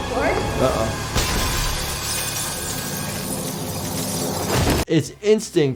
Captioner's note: glass shatters